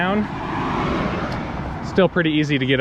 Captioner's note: car engine roaring